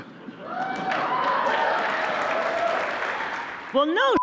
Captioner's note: cheers, applause